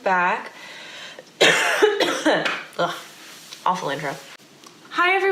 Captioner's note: coughs